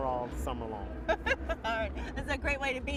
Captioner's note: laughs